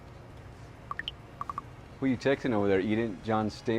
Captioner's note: text notification chirps